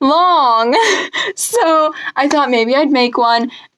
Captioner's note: laughs